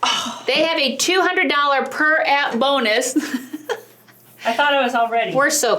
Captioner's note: huffing noise; laughing